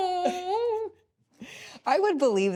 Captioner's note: squeals